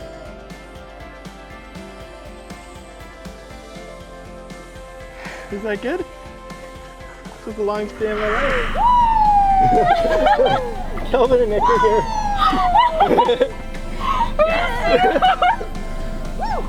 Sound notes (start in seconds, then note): 9.6 shouting in background; 11.4 both laughing